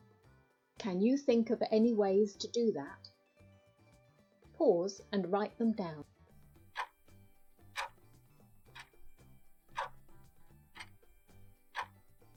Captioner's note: clock ticking